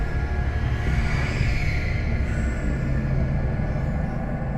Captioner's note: shrieking sound